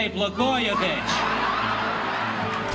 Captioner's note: audience cheering